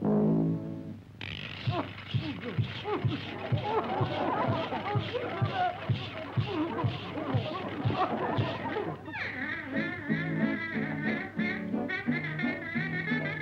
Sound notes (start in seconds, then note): 1.9 audience laughs; 2.1 public pest no. 23 grunting